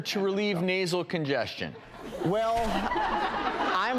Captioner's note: laughs